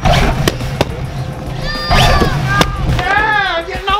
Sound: balloons popping

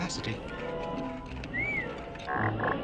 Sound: whistle

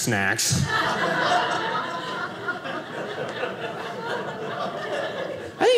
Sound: audience laughing

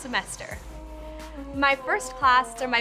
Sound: vocalizes

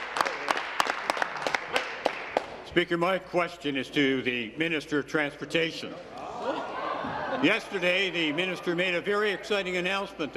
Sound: applause

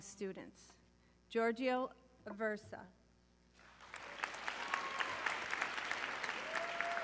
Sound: audience cheering

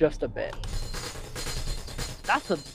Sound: gunfire

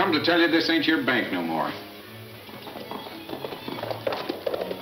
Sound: hooves clunking

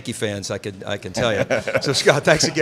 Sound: laughing

